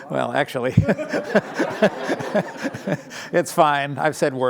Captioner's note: laughter